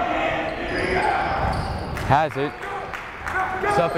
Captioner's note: yelling